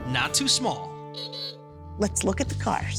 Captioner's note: horn honks